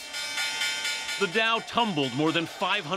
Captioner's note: bell ringing